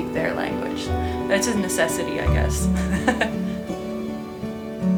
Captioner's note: laughs